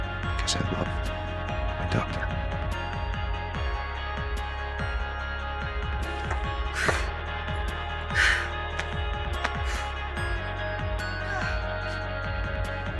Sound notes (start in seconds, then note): 6.0 Helen breathing heavily